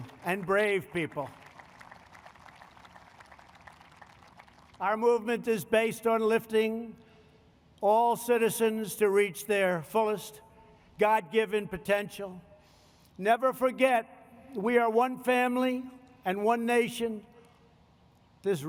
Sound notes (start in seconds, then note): 0.0 applause